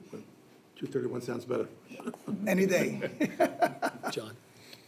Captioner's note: laughs